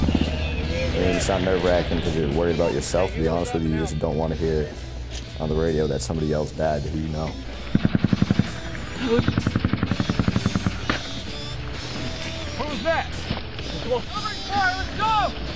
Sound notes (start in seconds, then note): 7.7 bullets firing